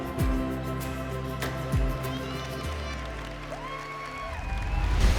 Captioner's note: music fades; cheers and applause